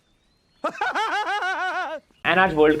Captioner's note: laughing